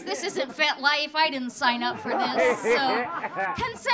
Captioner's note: audience laughing